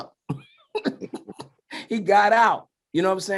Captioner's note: laughs